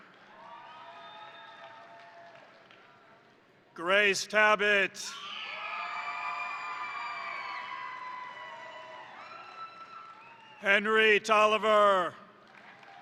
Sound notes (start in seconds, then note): 0.0 crowd applauding; 0.1 crowd cheering; 5.2 crowd cheering; 5.7 crowd applauding; 12.4 crowd applauding; 12.5 crowd cheering